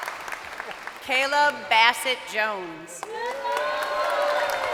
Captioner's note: crowd cheering